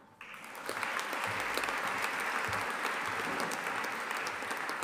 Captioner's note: audience applauding